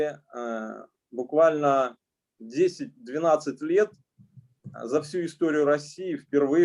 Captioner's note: speaking Russian language